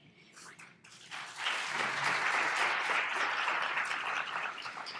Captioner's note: audience applauding